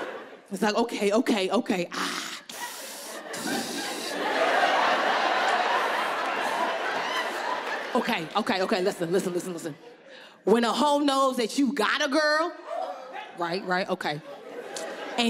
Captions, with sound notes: It was like, "Okay, okay, okay, ah... (breathing through teeth) (audience laughing) Okay, okay, okay. Listen, listen, listen, listen. When a ho knows that you got a girl, right, right, okay,